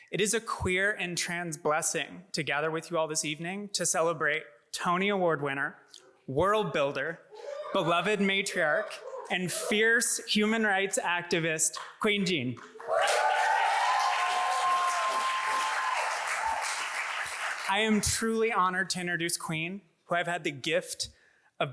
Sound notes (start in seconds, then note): 12.6 audience applauds